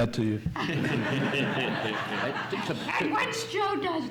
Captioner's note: audience laughs